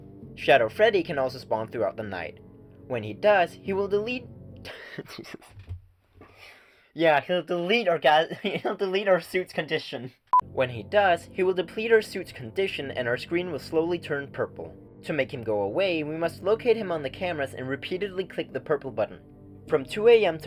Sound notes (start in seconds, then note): 4.6 laughter